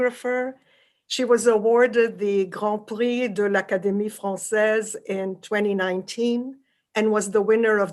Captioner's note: french